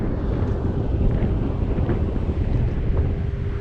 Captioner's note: none